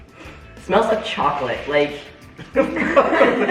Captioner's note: sniffs; all chuckles